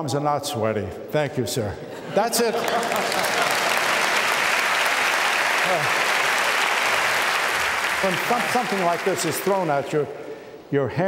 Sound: applause

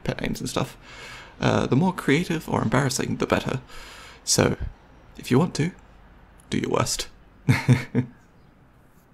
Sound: laughs

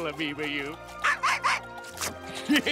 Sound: barking

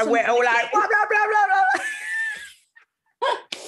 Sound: exclaims; both laugh

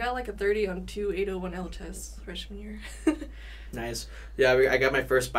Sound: laughs

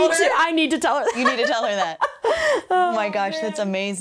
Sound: laughs

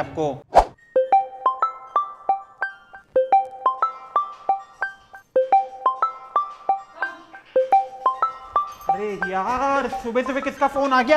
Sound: phone ringing

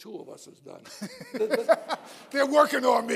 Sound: laughter

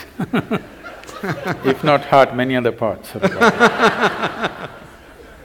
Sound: few Laugh; laughter

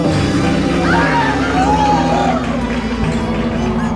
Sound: ghostly moaning; woman screaming; audience applauding

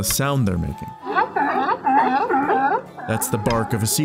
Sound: pinnipeds barking

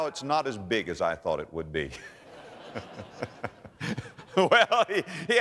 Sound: audience laughter

